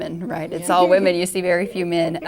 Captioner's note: all laugh